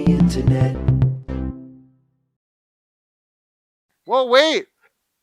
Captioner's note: cheerful tone